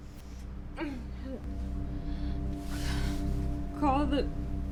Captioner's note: Fern groans